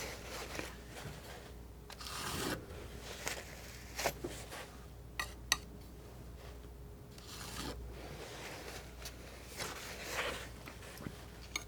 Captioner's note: scraping